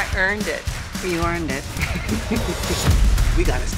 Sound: laughing

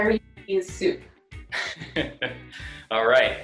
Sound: laughs

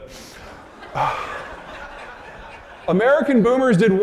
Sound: audience laughing

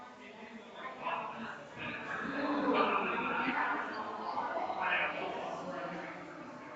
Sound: people chattering distantly continues

